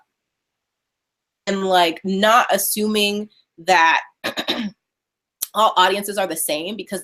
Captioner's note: clears throat